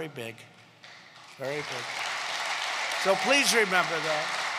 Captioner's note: applause